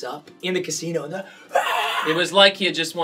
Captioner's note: mimics screaming